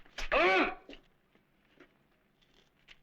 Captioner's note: non-english speech